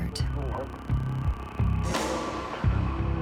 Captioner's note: eerie whistling sound